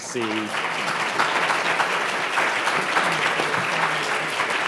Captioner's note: audience applauding